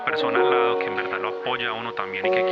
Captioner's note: speaking foreign language